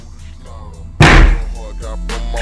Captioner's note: slap